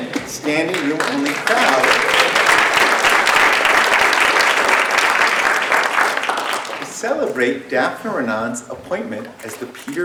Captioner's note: applause